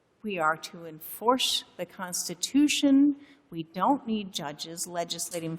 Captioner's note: none